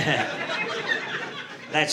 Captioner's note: audience laughing